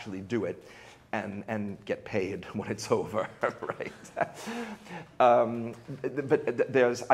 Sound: chuckles

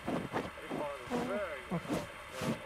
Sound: muffled scratching noise

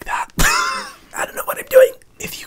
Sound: Hyram laughs

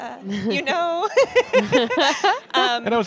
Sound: laughter

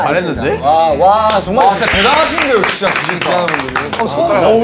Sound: clap Clap

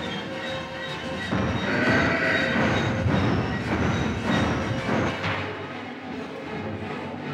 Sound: dramatic music; Donald growling

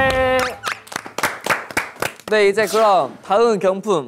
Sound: clapping for politeness

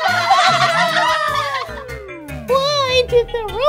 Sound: giggling

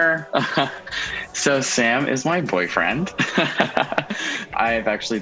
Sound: chuckling

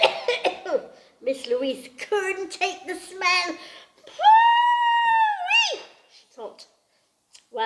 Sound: cough, cough

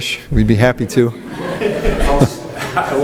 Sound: audience laughs

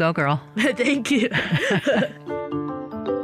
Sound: laughter; laughs

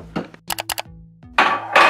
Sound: double mouse click sound effect

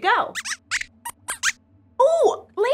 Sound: squeaks squeaks

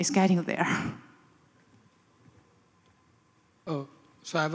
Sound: laughs

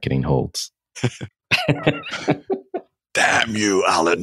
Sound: laughing

